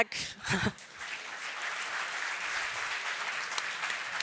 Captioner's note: applause